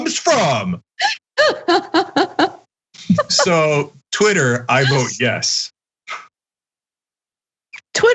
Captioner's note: laugh